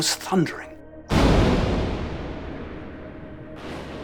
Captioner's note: explosions